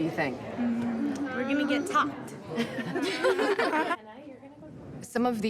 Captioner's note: laughter